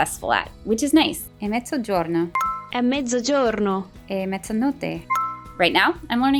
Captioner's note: speaking Italian